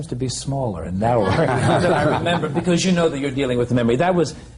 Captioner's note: laughter